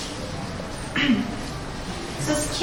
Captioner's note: clears throat